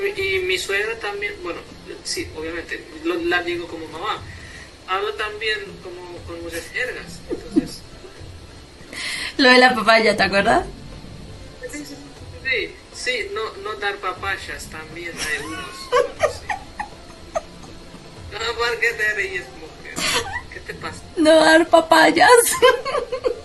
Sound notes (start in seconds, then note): 15.1 hahahhahha